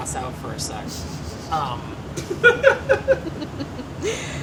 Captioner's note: laughing